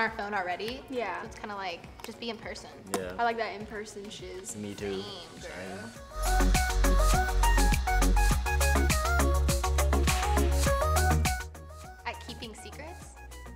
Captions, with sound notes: 'cause we're on our phone already. It's kind of like, just be in person. - (pops lips) I like that in person chills. - Me too. - Same girl. (upbeat music) At keeping secrets?